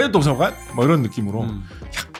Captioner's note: sparkling sound effect